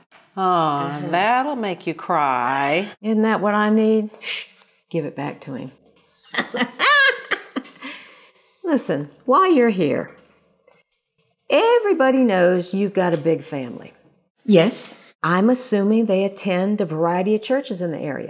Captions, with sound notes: Aw, that'll make you cry. Isn't that what I need? Give it back to him. ( laughter ) Listen, while you're here, everybody knows you've got a big family. Yes. I'm assuming they attend a variety of churches in the area.